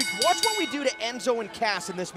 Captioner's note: bell